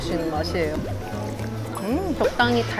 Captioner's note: slurp